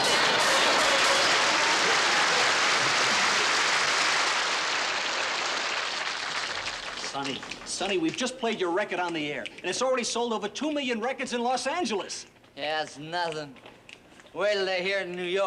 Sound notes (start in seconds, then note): 0.0 applause